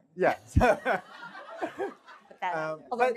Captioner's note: laughter